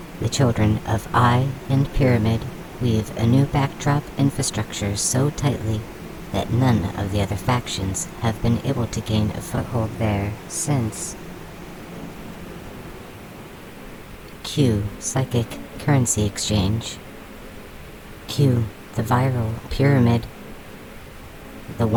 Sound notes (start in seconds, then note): 14.4 the hum of the swarm returns to buzzing